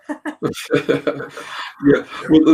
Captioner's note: both laughing